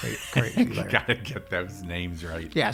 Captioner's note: laughs